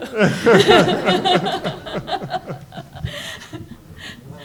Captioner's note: laughter